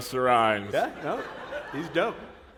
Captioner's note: laughter